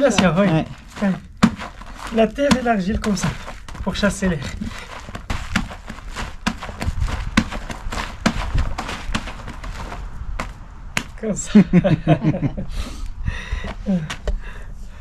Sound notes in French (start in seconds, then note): 11.5 rigole